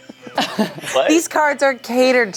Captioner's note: laughs